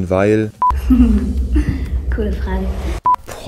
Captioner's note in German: lacht